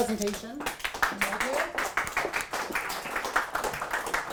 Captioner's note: attendees applauding